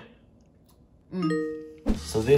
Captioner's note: happy chime